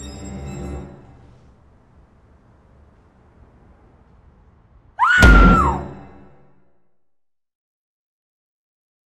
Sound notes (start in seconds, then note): 4.9 scream